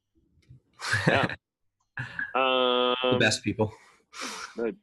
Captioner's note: laughing